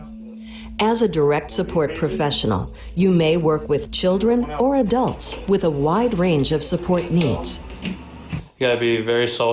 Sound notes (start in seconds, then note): 0.9 voiceover